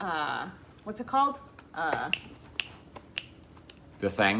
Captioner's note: snaps fingers